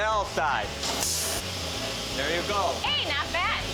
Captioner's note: grinding sounds